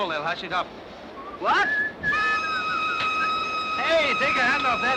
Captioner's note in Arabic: صافرة القطار